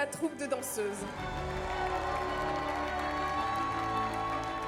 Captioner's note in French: exclamations de la foule